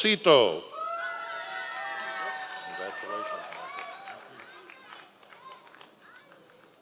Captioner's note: members of the audience cheering